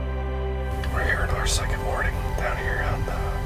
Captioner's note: whispering